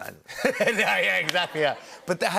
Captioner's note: laughter